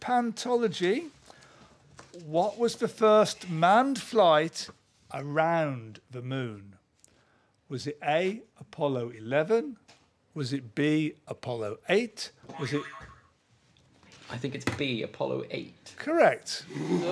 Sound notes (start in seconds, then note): 12.6 boing